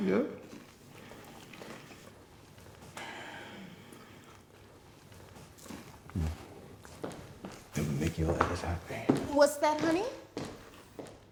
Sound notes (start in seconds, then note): 4.8 chewing; 7.8 lowering voice